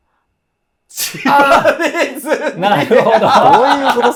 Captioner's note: laughing